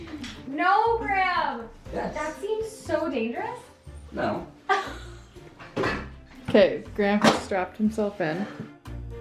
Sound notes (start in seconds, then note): 4.7 laughs